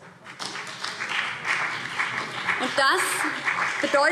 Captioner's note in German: Beifall BÜNDNIS 90/DIE GRÜNEN